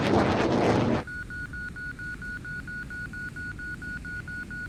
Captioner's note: aircraft whooshing; radio beeping